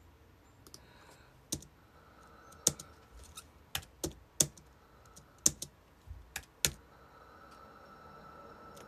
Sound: aggressive clickity clacking

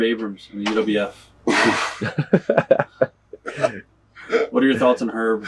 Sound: Greg laughing

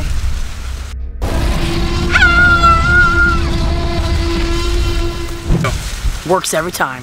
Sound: T-Rex roars; girl screams

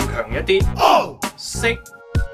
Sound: Cantonese

